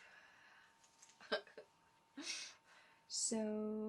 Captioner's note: giggles